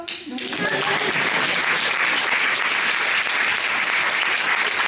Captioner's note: applause